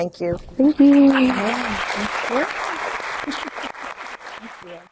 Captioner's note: audience applauding